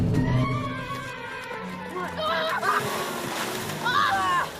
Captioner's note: screaming; screams